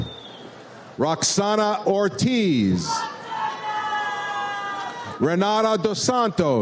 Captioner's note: audience cheers